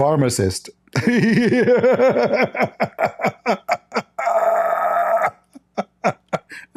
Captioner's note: Ketawa